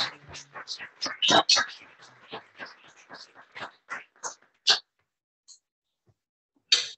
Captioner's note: applause